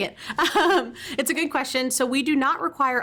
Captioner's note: chuckles